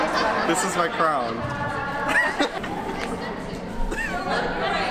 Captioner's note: just laughing it up